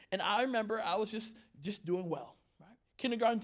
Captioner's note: none